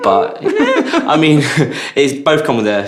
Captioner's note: laughter